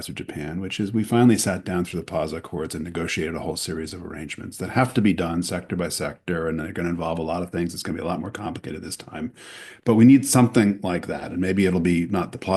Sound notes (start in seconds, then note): none